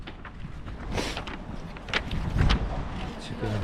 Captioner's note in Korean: 훌쩍